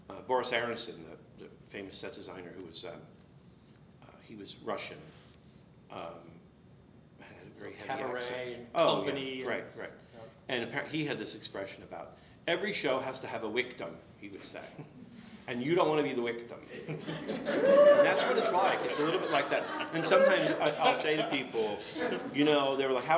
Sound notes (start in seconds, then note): 16.7 audience laughs